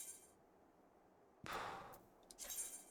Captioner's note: sigh